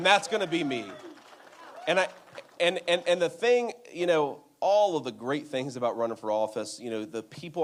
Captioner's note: applause